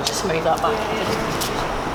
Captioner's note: klaxon sounds